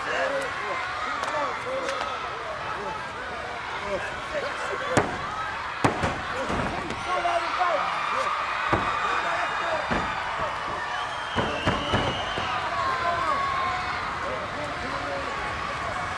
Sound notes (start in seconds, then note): 4.1 hand thuds; 8.5 crowd cheers